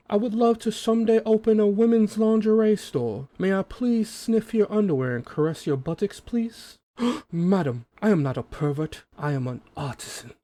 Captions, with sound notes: I would love to someday open a woman's lingerie store May I please sniff your underwear and caress your buttocks please? *gasp* Madam I am not a pervert. I am an artisan.